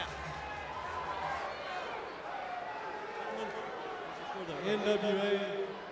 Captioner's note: crowd chattering